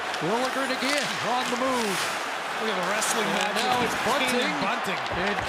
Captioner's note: booing